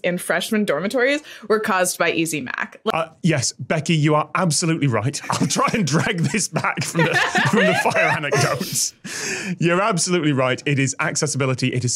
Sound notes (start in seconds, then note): 8.7 group laughing